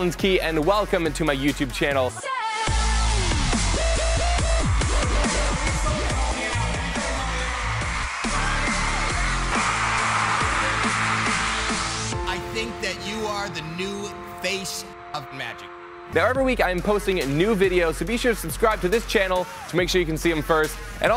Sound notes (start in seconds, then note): 2.1 techno music; 5.1 screaming